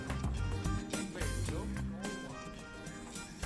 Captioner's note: indistinct chatter